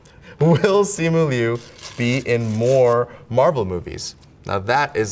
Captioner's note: paper rips